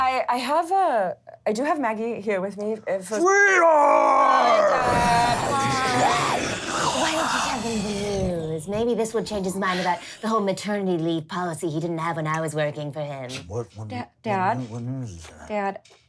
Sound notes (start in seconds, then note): 6.5 guttural growl